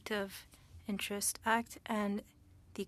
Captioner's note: speaking French